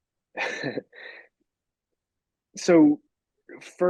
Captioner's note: laughing